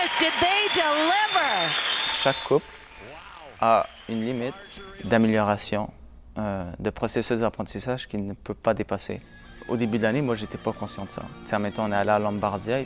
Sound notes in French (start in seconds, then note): 3.0 applaudissements; 3.0 commentateurs, en anglais